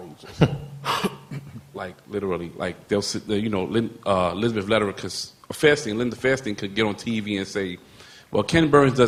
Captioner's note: laughter